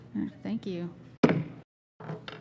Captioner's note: gavel bangs